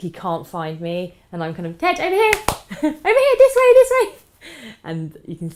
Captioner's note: claps